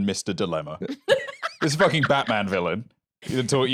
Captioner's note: laughs